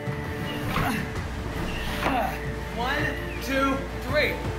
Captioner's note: struggling